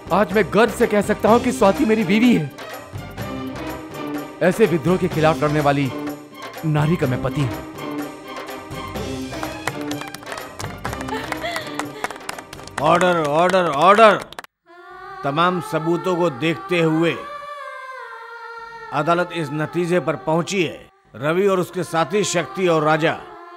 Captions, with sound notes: I'm proud that Swati is my wife. I'm the husband of this rebellious woman. [Clapping] Order! Order! Order! After going through all the evidence and statement of witnesses.. ..the court has reached the decision that Ravi and his friends..